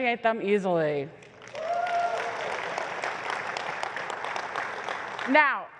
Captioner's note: applause